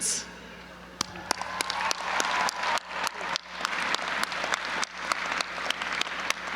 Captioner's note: audience applauding and cheering